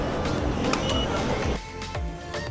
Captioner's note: beeps